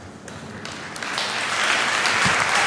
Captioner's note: applause